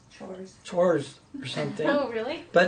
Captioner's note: voiceover